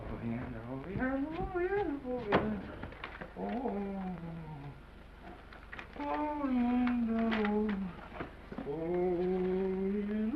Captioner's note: excited drunken mumbling